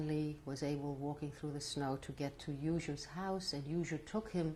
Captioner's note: non-english